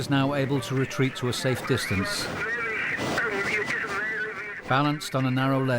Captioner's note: radio vocalizing